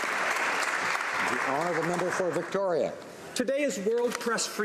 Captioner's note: some Applause